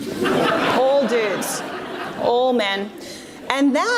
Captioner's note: audience laughs